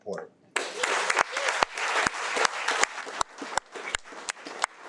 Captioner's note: audience clapping